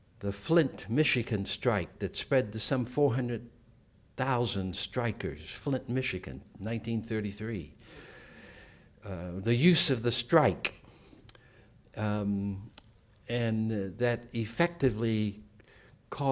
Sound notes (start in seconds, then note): none